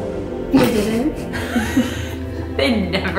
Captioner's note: soft Music; laughter